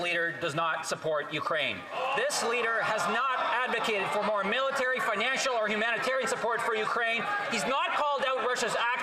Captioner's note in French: voix de l'interprète